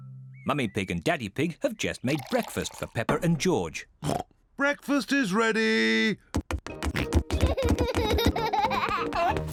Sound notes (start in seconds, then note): 4.0 oinks; 6.9 oinks and giggles